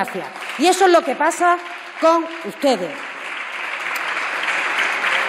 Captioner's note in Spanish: Aplausos